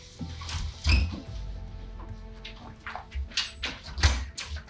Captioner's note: door squeaking